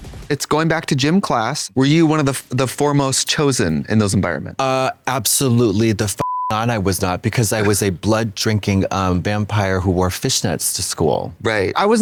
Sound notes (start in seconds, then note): 6.2 beep